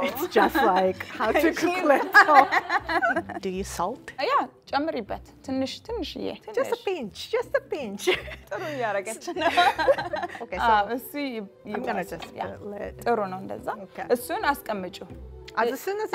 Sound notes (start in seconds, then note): 1.9 both laugh; 4.6 speaking Amharic; 8.5 speaking Amharic; 13.2 speaking Amharic